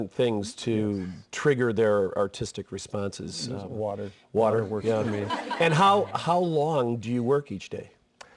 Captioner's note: laughter